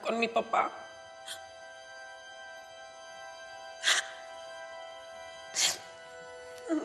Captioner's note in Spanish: Sollozos